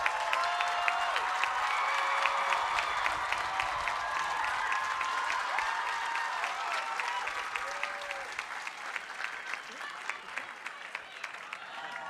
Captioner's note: cheers and applause